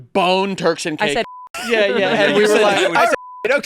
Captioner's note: beep